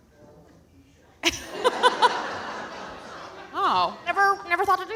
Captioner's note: audience laughing